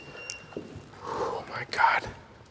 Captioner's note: EMF meter beeps